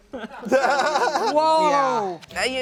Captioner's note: laughs